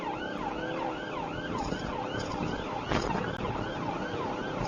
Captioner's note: engine accelerating